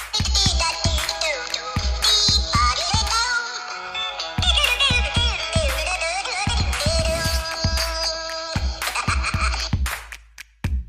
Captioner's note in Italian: Applauso